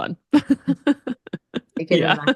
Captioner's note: laughs